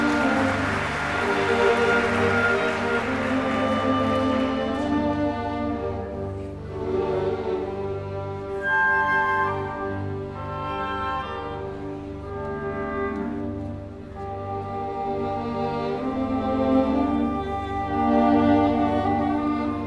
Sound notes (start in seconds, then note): 4.4 applause